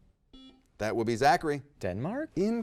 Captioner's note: buzzer rings